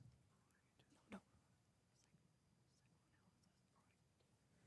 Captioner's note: participants whispering